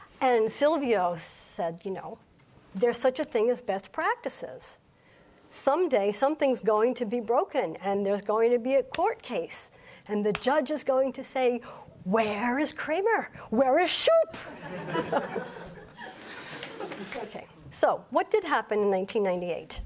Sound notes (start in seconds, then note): 14.5 audience laughs